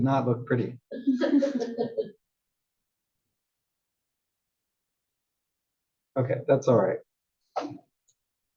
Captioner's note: laugh